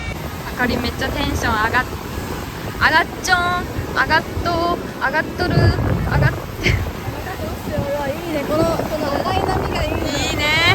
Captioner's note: said in a Japanese different accents